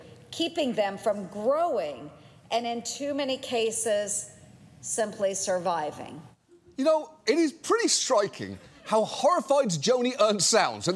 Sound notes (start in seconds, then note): none